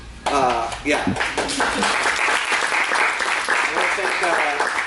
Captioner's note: applause